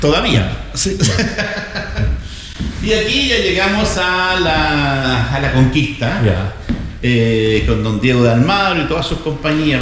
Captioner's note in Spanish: risas